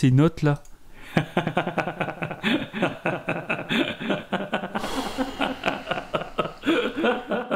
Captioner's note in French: rires